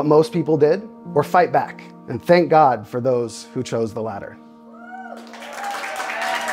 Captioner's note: clapping